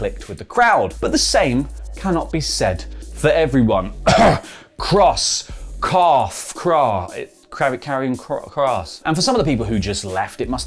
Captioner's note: cough